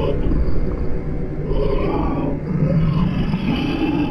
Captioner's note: low hissing, demonic voices